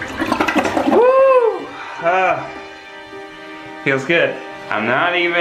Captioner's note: cheers